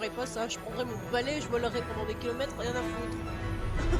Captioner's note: laugh